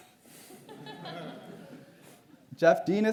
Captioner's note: audience laughs